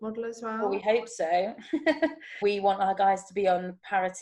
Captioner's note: chuckles